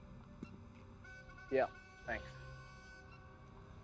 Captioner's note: horn blowing